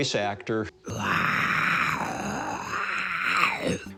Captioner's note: voice actor growling